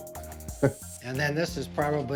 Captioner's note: man chuckling